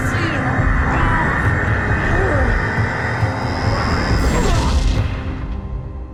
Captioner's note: grunts